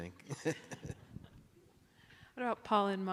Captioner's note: laughs